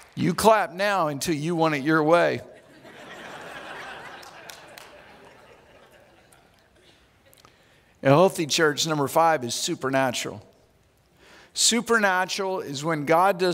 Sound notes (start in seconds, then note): 2.5 audience laughs